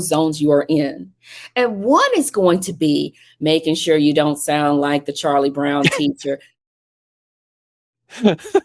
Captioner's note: laughing